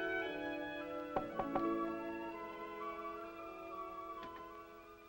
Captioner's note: door knocking